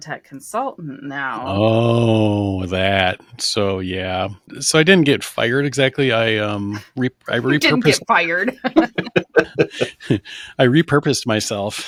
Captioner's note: laughter